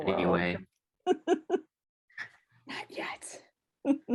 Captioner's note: laughing